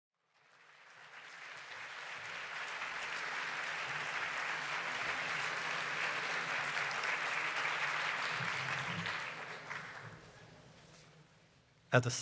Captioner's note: applause